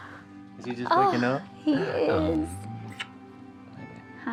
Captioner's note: smooch